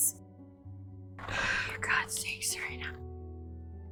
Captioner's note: sighing